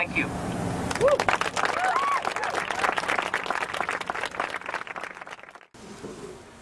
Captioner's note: applause